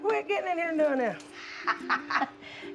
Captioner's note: laughs